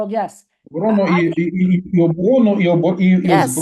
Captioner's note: non-english speech